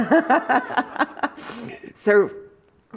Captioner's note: laughter